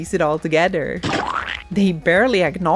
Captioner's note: splat noise